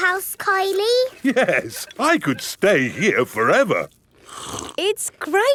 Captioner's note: slurps